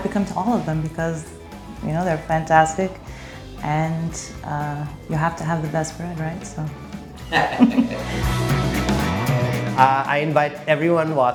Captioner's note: laughing